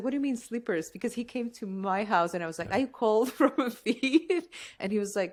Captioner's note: laughter